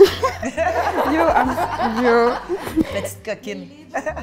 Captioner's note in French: rires